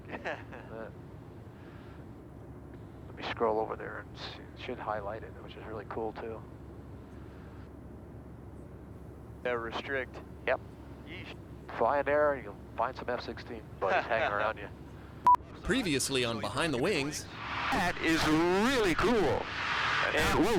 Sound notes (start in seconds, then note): 14.8 laughing; 15.2 beep